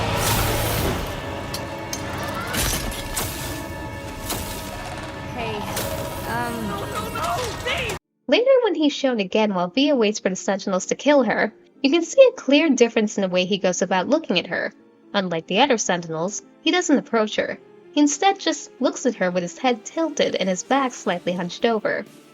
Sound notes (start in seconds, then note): 2.5 rip V's glasses getting crushed sound; 4.8 sentinel growling noises